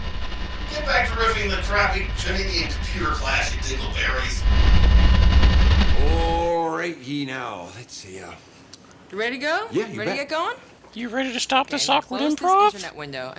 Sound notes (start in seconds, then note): 4.3 loud static